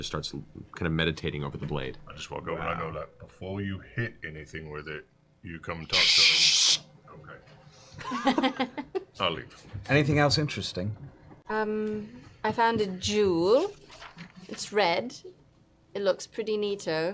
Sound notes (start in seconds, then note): 5.9 shushing